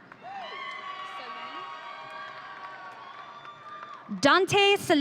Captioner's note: audience cheering